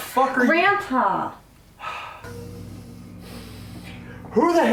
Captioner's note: deep breath